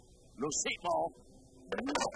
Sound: speaking language

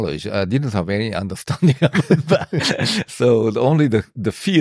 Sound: laughs

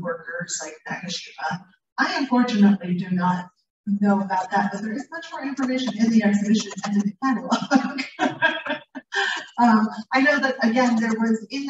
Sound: laughing

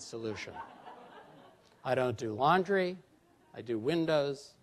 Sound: laughter

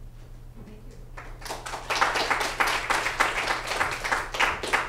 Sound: applause

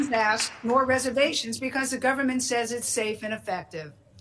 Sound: applause

